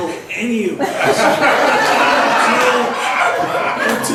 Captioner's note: laughs